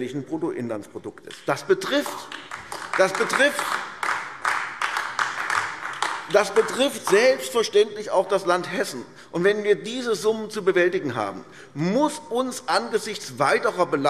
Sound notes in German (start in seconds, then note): 1.8 Beifall AfD